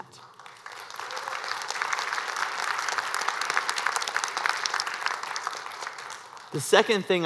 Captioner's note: applause